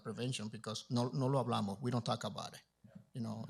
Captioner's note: Spanish language